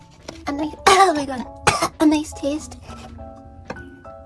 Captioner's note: cough; choke